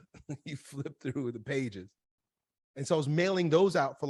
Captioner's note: laughs